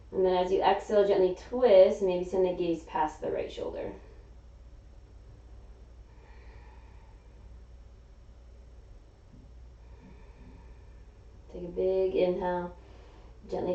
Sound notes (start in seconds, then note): 6.0 exhaling; 6.2 inhaling